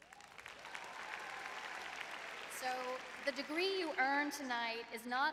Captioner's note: applause